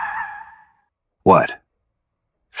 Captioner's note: SFX: Brakes screeching